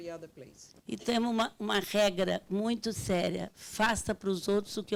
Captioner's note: speaking Portuguese